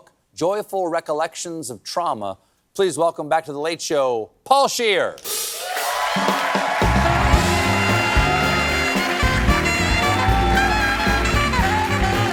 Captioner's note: cheers and applause